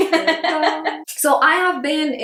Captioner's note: laughs